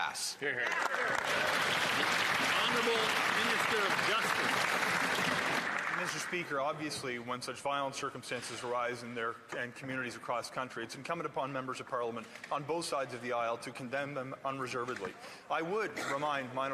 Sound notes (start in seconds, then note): 7.0 some Applause